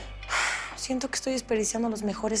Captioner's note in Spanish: Suspiro